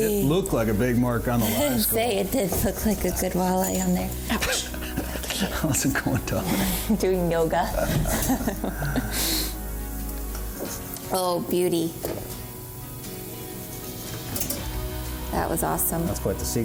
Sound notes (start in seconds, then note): 8.6 laughs